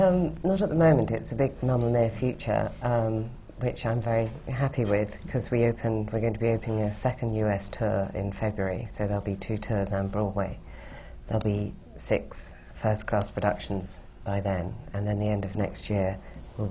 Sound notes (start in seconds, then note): none